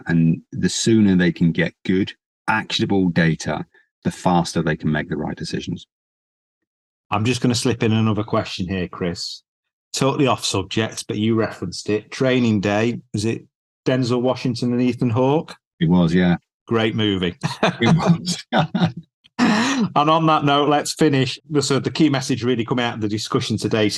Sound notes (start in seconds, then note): 17.4 both laughing